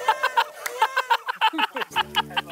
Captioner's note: whining